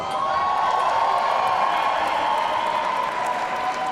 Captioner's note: audience cheering